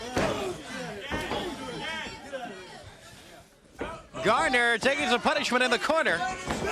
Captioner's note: crowd chatter